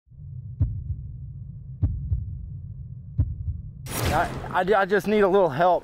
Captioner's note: heart beats